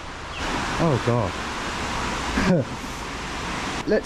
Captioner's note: laughs